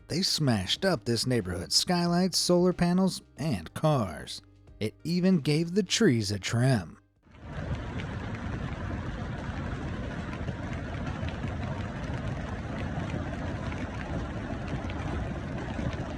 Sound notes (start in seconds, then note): 7.4 hailstones clattering